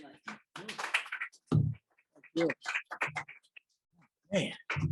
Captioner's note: applause